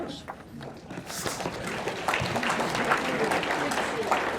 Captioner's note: audience clapping